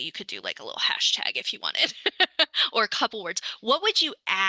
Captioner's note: laughs